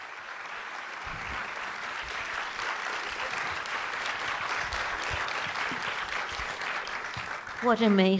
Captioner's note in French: applaudissements